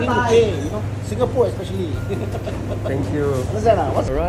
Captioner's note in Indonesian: tertawa